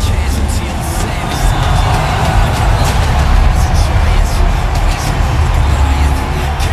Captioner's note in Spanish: Ovación